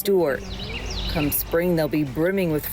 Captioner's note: birds singing